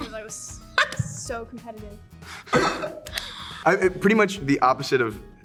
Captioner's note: laughs; multiple laughing